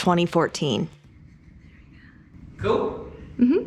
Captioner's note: whispering